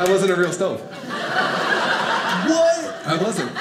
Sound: audience laughing

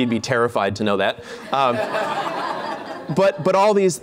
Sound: laughter

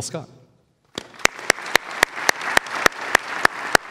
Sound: clapping

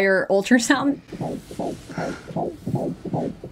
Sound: heart beating

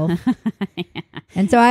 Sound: laughing

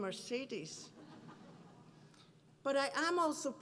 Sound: laughter

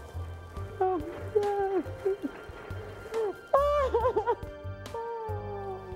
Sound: crying

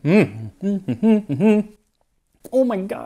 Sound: hums happily

